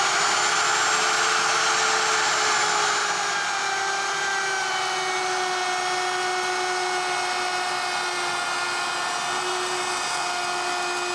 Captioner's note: power tool humming